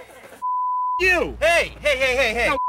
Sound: beep

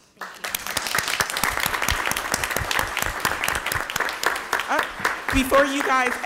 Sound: crowd applauds

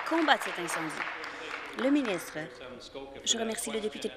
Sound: applause

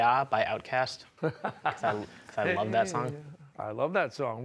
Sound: laughs

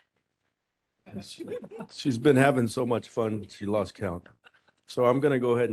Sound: laughing

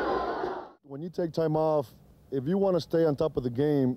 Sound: crowd boos

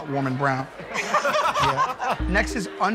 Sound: laughter

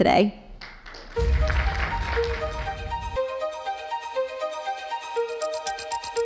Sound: audience applauds

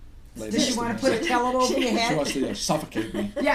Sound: voiceover

